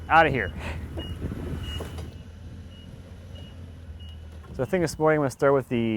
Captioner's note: forklift beeping